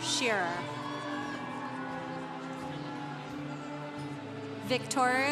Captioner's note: congregation cheering